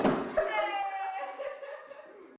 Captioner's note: laughs fade out